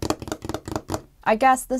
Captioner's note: drums fingers on the desk